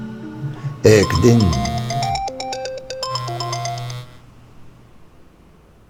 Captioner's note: phone interrupts